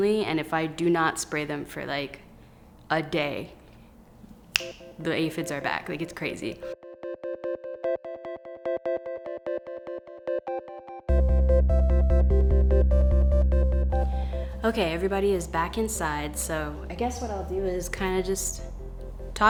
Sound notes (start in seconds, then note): 4.5 finger snapping; 8.8 upbeat music